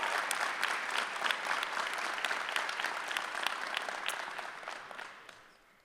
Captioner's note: applause